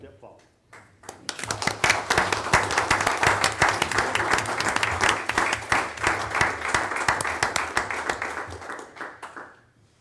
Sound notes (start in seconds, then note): 0.8 audience applauding